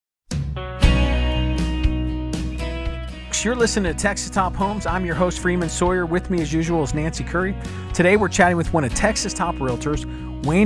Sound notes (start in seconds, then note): 0.0 country music; 2.9 voiceover